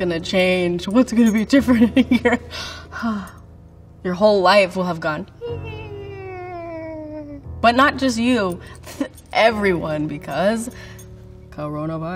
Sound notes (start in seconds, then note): 1.9 laughing